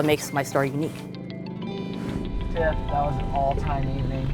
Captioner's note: engine roaring